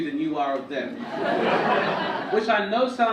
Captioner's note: audience laugh